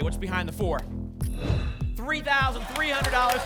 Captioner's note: whoosh